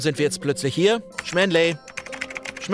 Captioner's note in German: Tippgeräusche